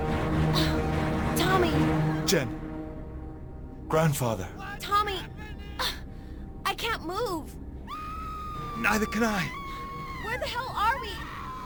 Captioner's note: some background screaming